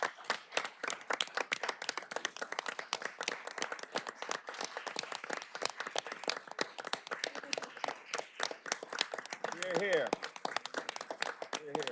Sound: applause

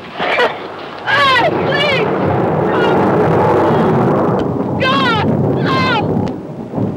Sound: screams

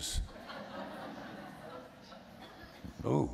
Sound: laughter

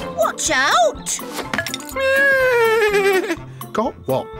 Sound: neighs

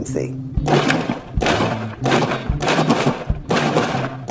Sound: machine whirring

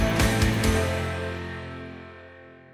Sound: none

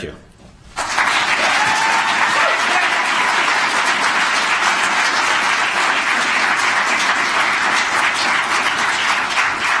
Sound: applause

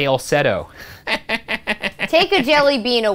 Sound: laughs

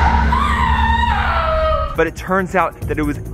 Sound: people screaming; suspenseful music

